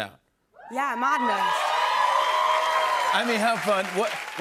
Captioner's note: cheers and applause